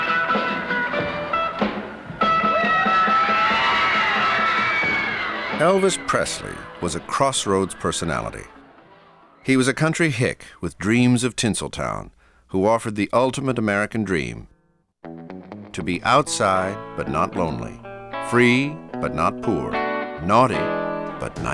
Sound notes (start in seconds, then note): 2.1 shrieking rises again